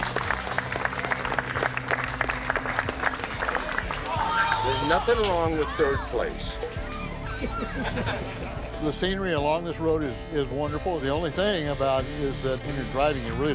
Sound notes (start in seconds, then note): 0.1 crowd applauds; 7.6 crowd laughs